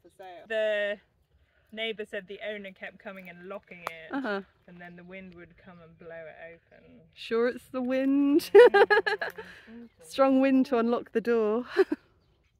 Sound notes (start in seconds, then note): 8.4 laughing; 8.6 hmm